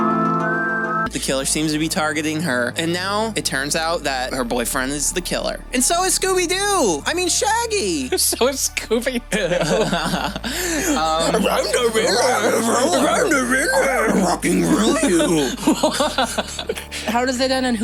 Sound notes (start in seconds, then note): 13.9 laughter; 14.3 Scooby-Doo voice; 17.3 laughter